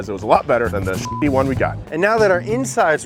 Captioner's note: beep